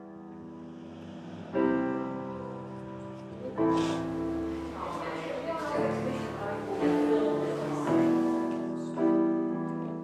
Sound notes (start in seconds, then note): 0.1 slow piano music; 5.2 crowd chattering